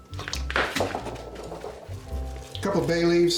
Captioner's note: thuds